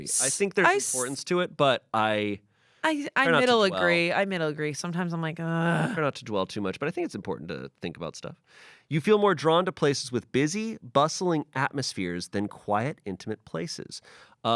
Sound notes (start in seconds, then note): 5.6 groans